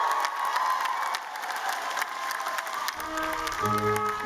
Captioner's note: applause